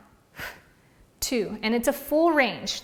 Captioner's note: exhales loudly